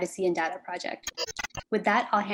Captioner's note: glitch sound